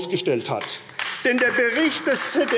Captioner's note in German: Beifall AfD